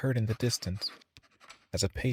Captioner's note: pen scribbles